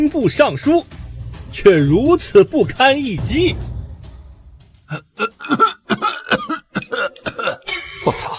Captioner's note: cough cough cough